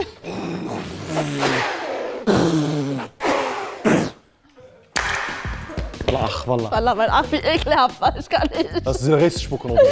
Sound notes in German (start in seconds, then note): 0.4 Sie pusten und spucken